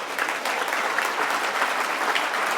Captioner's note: applause